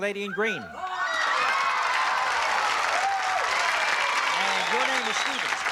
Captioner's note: cheering